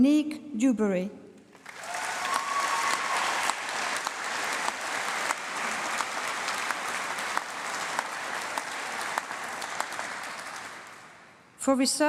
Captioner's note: applause